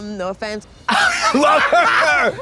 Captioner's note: Trixie crows